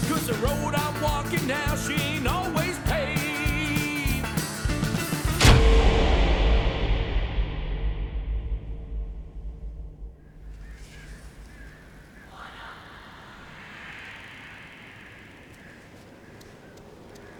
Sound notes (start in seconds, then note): 5.3 ominous music; 12.7 ghosts whispering